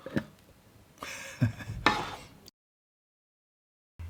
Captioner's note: laughing